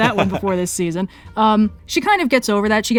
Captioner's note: laughs